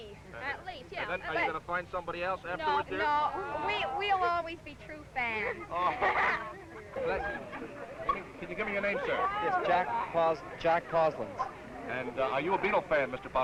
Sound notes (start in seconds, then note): 5.4 laughing